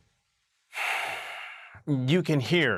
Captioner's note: sigh